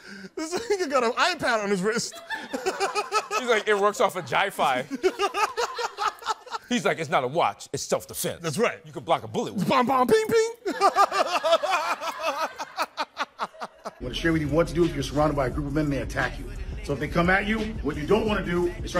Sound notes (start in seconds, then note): 10.6 laughing